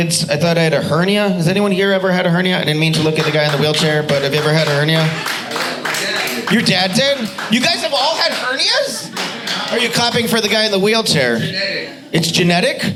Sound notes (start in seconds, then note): 5.4 audience applauding